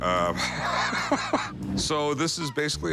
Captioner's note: laughter